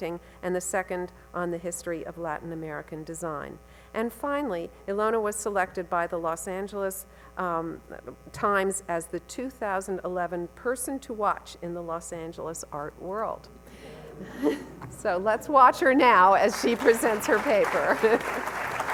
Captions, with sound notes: and the second on the history of Latin American design. And finally, Ilona was selected by the Los Angeles Times as the 2011 person to watch in the Los Angeles art world. (audience murmurs) (laughs) So let's watch her now, as she presents her paper (laughs)